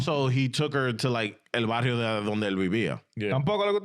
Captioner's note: speaking Foreign Language